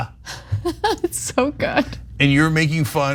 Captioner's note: laugh